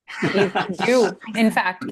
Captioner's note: laughter